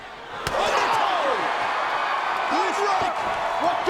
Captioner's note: audience cheers